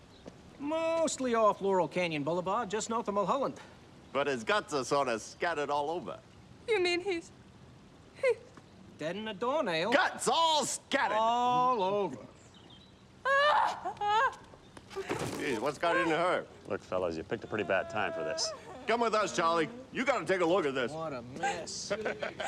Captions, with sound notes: Mostly off Laurel Canyon Blvd just north of Mulholland. But his guts are sorta scattered all over. You mean he's... he's... Deader'n a doornail. Guts all scattered. All over. (SOBBING) Gee. Whats got into her? Look fellas you picked a pretty bad time for this. Come with us Charlie. You gotta take a look at this. What a mess! (CHUCKLING)